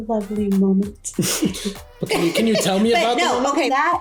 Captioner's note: chuckles